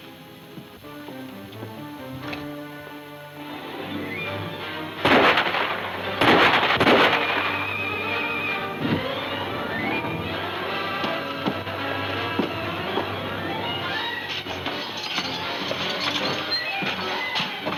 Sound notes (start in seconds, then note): 5.0 gunfire pops